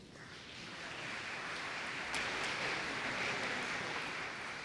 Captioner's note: applause